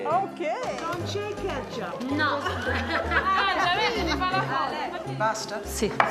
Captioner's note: speaking Italian